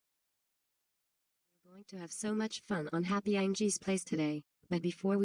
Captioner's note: on TV